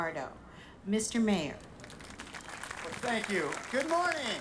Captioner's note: audience applauding